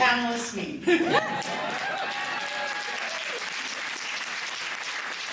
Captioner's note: laughter, cheering, applause